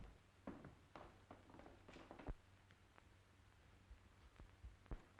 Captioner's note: footsteps clattering